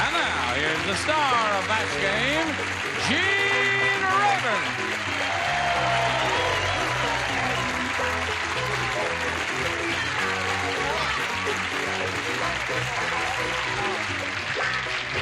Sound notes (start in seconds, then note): 5.5 cheering; 8.0 theme music